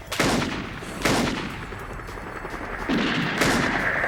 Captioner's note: gunshots booming